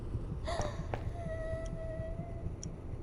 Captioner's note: girl crying